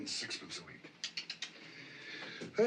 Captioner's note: CLICKlNG TONGUE